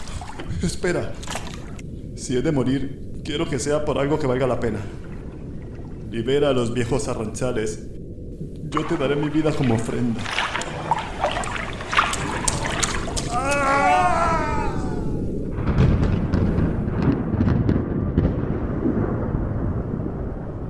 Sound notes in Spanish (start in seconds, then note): 13.2 Grito desgarrado